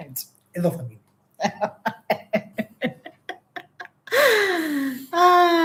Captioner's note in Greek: γέλια